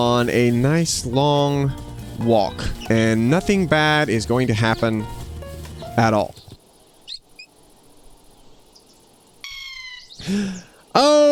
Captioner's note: hamster squeaking